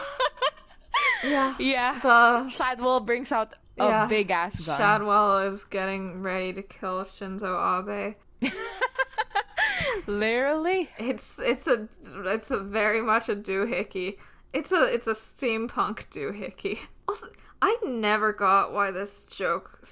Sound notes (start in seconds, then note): 8.3 laughs